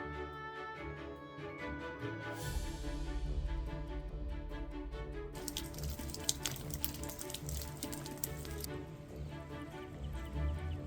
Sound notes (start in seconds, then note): 5.3 rainfall splatters